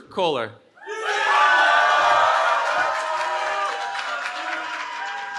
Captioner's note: cheering